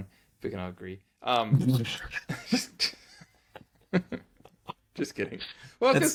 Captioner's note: laughter